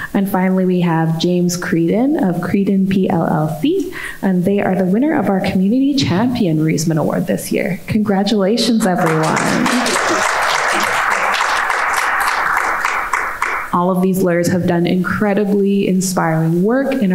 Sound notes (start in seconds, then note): 8.6 audience clapping